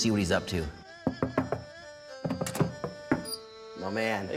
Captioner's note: knocking